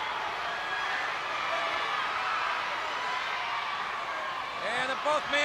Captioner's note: crowd cheering